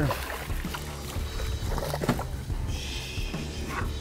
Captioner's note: fish splashing